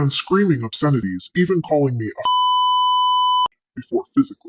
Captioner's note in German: Piep